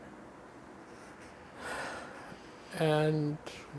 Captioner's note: sighing